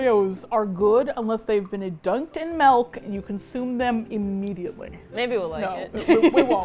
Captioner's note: laughs